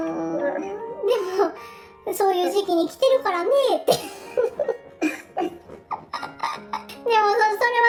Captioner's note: laughs